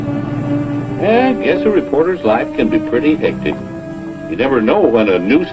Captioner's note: car revving